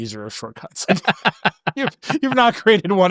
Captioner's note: laughing